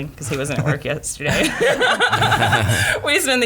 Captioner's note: laughing